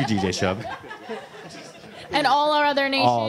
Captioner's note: laughter